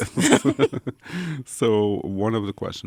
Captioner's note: both laugh